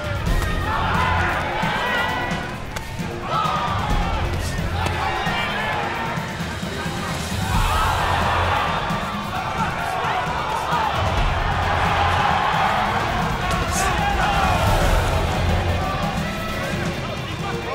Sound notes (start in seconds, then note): 0.2 crowd cheers; 7.2 crowd gasping